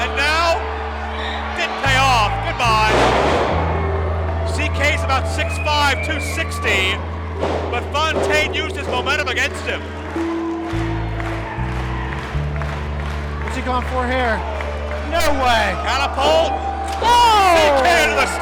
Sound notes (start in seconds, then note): 11.0 audience clapping; 11.0 soft music